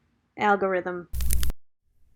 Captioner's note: VHS static noise